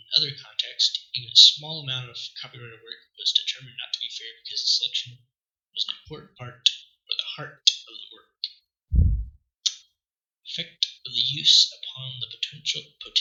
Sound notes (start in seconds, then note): 9.0 pff